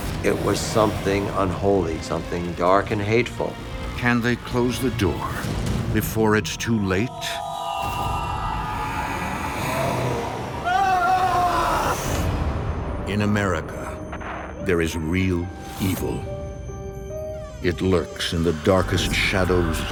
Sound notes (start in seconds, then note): 8.4 strident tones; 8.6 growling; 10.9 Keith screaming